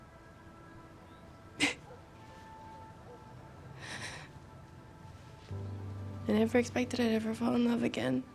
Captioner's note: scoffs; sighs